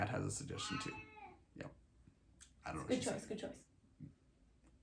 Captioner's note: cat meows; more meows